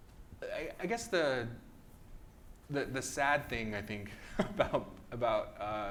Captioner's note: laughs